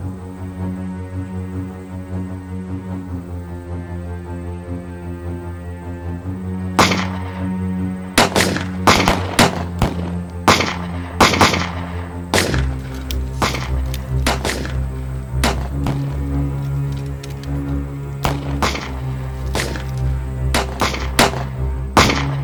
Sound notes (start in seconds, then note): 0.3 intense music continues; 6.8 gunshots cracking; 11.2 gunshots cracking; 18.4 gunshot cracking continues